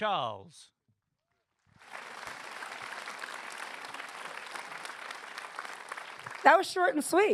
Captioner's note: applause